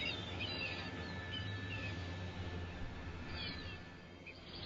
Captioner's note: birds chirping